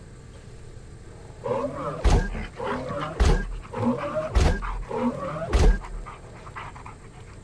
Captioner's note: dog panting